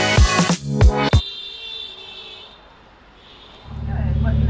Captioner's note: car honking